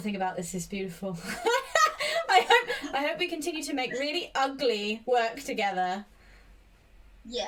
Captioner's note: both laugh